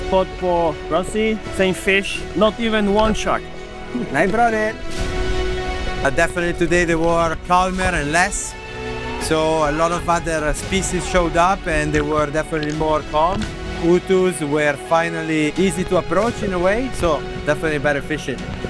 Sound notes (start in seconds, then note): 3.9 laugh